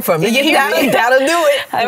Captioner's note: laughter